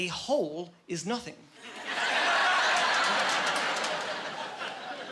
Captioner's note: laughing